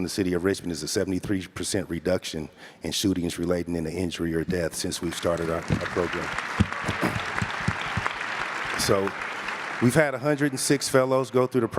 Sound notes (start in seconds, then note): 4.9 guests and clap; 5.0 audience applauds